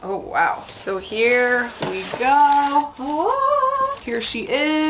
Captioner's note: hums